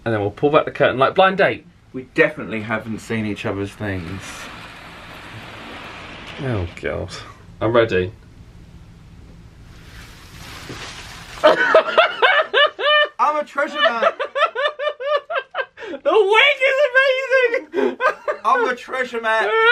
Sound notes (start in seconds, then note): 11.4 laughs; 14.9 laughing